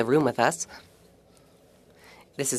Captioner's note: speaking French